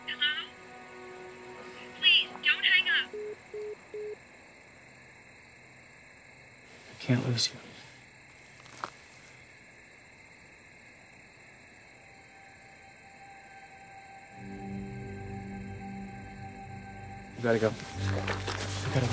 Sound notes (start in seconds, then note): 3.1 dial tone; 12.2 dramatic music